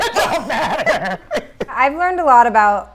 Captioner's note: laughing